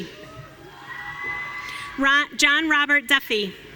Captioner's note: audience cheering